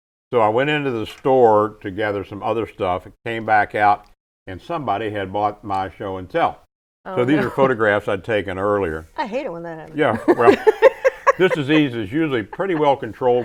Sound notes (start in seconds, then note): 10.1 laughing